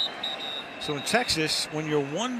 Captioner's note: whistle blows